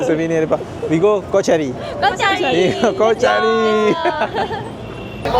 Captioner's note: laugh